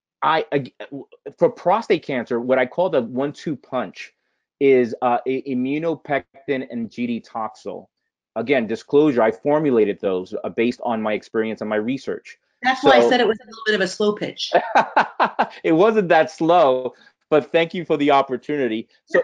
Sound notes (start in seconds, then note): 14.5 laughing